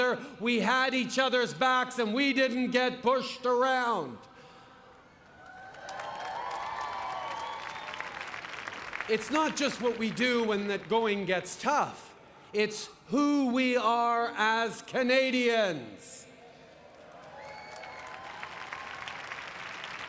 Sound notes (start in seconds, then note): 16.8 applause